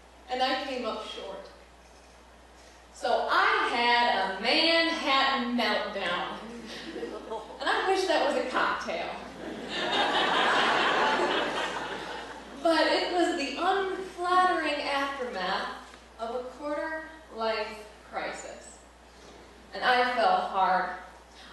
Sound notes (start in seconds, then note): 9.3 laughter